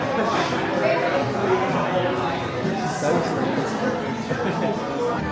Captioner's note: crowd murmuring